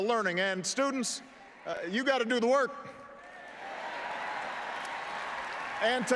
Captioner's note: applause